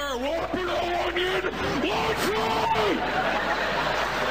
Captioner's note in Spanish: gritando al micro x2